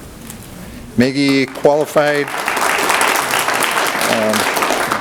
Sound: audience applauds

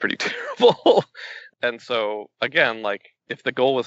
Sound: laughs

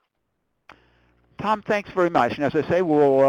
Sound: voiceover

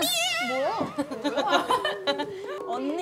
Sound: laughing

